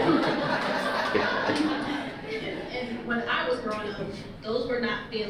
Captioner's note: audience laughter